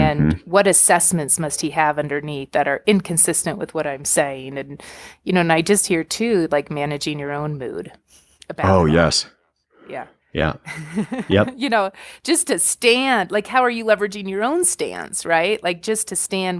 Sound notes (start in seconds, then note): 10.7 chuckle